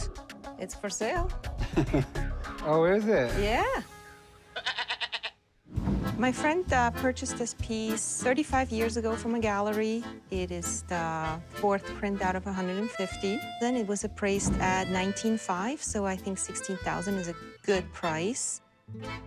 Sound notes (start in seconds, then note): 5.7 swoosh